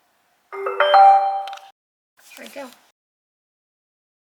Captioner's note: computer chimes